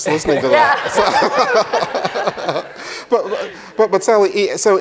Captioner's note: all laugh